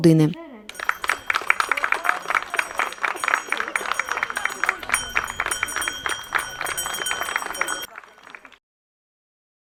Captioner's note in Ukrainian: лунає дзвоник